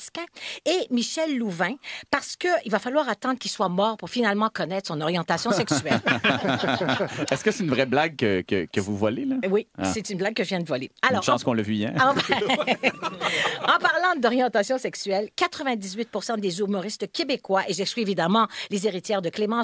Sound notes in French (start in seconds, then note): 5.4 rires